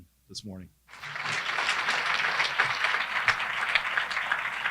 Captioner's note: audience clapping